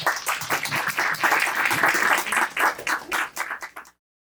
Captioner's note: applause